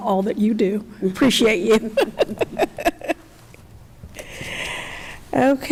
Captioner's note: chuckles